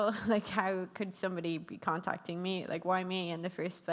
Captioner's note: none